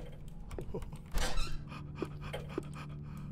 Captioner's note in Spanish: Risa tipo perro